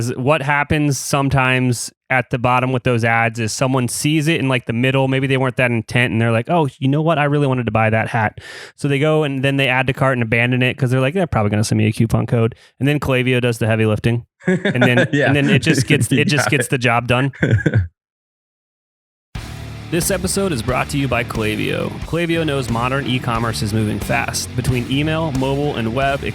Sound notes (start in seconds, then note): 14.4 laughs